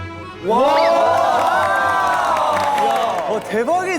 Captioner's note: cheers